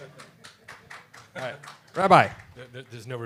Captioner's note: laughter